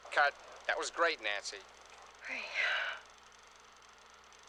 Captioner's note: sighs